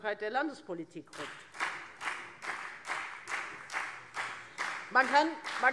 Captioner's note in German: Beifall Freie Demokraten